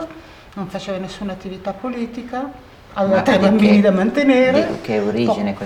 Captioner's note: chatter